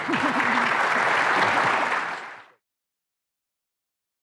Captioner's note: audience applauding